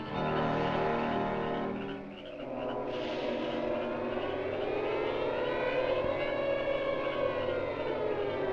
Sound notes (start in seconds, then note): 2.8 snake hisses